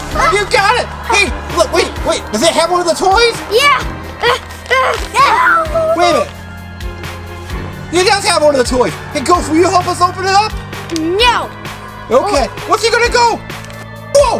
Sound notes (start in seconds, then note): 4.7 grunts